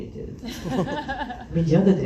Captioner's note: laughs